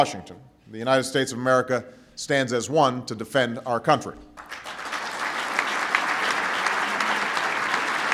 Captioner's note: applause